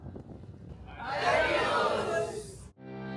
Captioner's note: all shouting